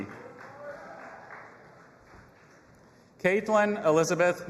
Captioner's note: audience applauding and cheering